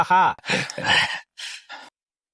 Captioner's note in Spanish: Suspiro